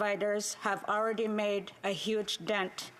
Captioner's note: speaking indigenous language